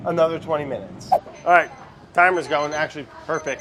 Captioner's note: timer beeps